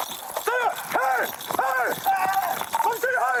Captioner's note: shouting